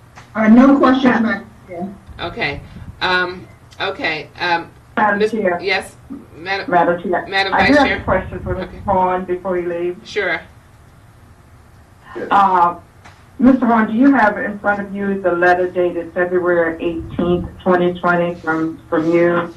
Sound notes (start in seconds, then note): 5.3 woman speaking in the background